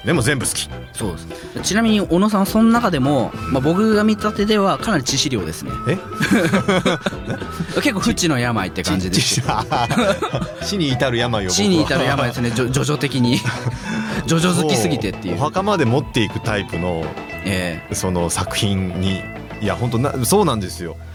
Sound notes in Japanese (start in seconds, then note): 8.6 笑い